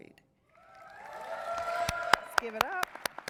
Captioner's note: audience cheers and applauds